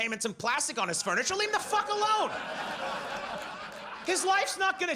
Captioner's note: audience laughs